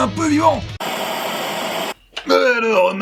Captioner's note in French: Bruit de vieille télé